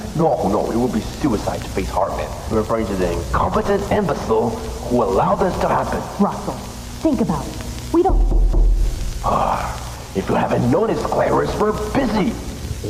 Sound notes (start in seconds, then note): 8.1 knocking; 9.9 sigh